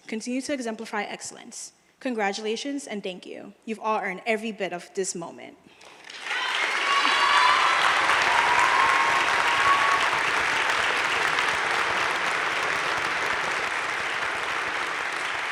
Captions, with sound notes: continue to exemplify excellence. Congratulations and thank you. You've all earned every bit of this moment. (crowd cheering and applauding)